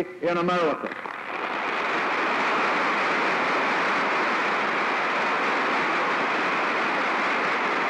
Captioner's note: applause